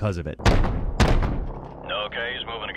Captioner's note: gun blasting